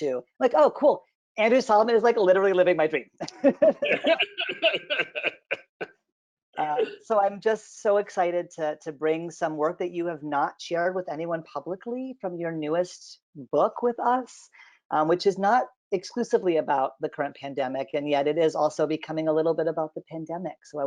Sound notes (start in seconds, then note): 3.2 both laughing